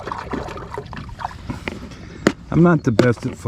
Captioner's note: water splashing